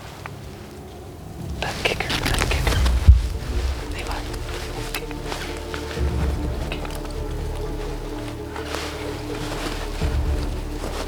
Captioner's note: whispering